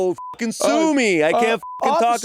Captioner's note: beeping